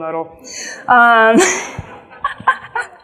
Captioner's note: laughs; audience laughs